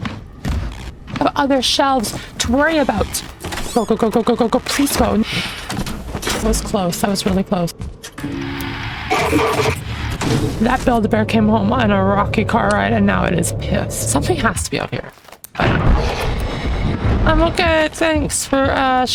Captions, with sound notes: I have other shelves to worry about. Go Go x2 Go x3 Go x4 Go x5 Go x6 Go x7 please go- That was close. That was really close. That Build-a-Bear came home on a rocky car ride and now it is pissed Something has to be out here. [GROWLING?] I'm okay. Thanks for, uh